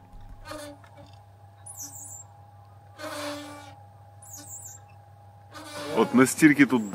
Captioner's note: the swing squeaks horribly